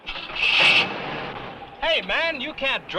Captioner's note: engine cranks